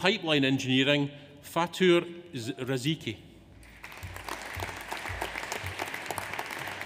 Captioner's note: audience applauds